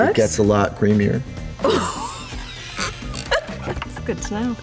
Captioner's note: laughter